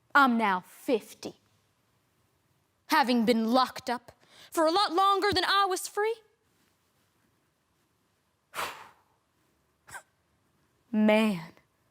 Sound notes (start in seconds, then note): 1.6 silent; 6.4 rustling; 8.5 sharp breaths; 8.5 deep breath out